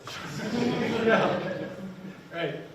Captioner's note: people laughing